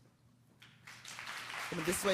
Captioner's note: applause